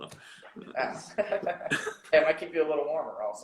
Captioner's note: laughing